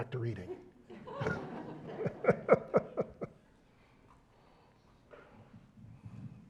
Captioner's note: laugh